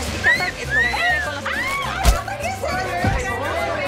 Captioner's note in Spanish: Silbido; Grito